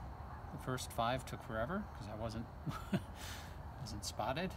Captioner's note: chuckle